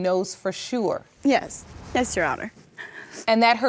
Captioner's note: sniffling